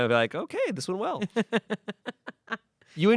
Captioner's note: Amanda laughs